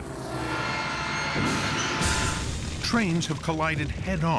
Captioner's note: horn blaring